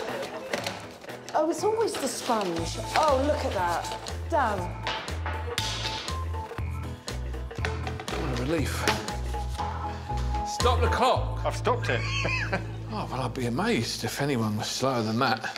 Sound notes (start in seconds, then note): 7.2 upbeat music; 8.8 broom handle clattering on floor; 14.7 Alan chuckling